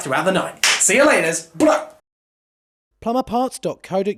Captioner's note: shouts